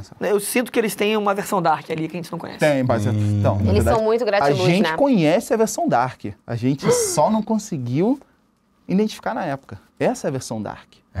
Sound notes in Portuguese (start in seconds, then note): 6.8 faz som de surpresa